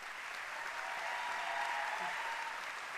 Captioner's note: applause